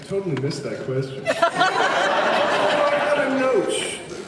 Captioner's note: laughs